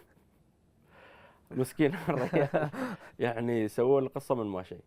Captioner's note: laughter